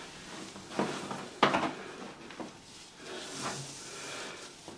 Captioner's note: rope rustling